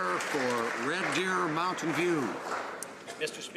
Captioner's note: some Applause